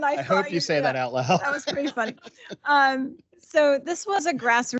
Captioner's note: laughing